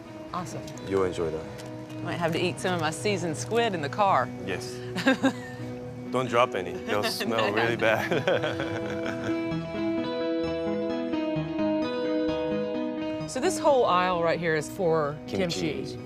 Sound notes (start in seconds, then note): 4.9 Vivian laughs; 7.0 both laughing; 8.8 calm music